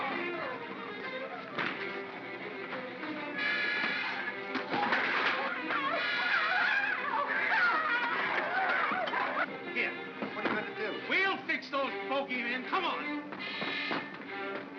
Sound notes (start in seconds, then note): 0.0 Bogeymen screaming; 0.0 darts thunking; 4.8 Bogeymen screaming; 5.5 suspenseful music; 14.1 suspenseful music